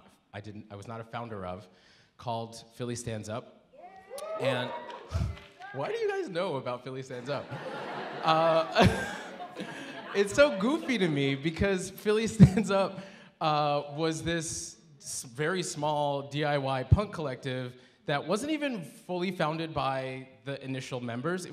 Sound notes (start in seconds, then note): 3.8 audience cheering; 8.9 audience laughing